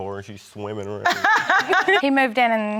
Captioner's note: laughs